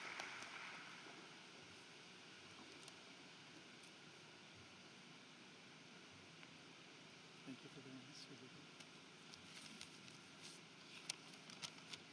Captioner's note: applause